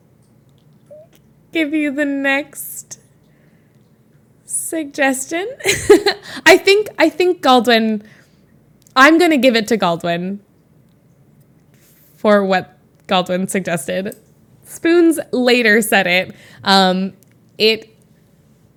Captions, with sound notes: give you the next… suggestion. [laughs] I think Galdwin-- I'm gonna give it to Galdwin, for what Galdwin suggested. Spoons later said it. It